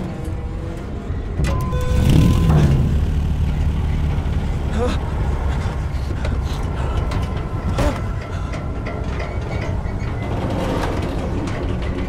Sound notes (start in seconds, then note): 1.7 car engine starting; 4.7 Eric grunting; 9.3 car creaking